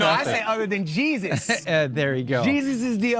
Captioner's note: laughing